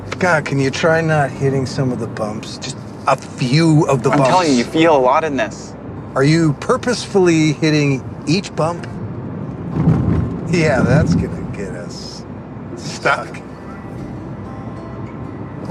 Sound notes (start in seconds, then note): 9.5 car thudding